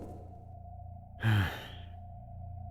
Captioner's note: sigh